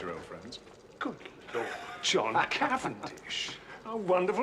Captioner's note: Tertawa